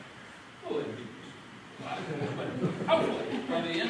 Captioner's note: laughter